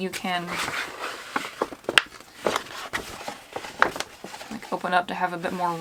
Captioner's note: rustling